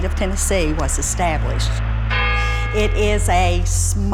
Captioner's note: clock chimes